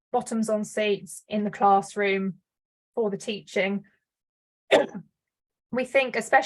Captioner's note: coughs